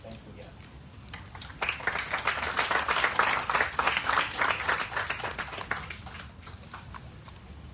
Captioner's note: applause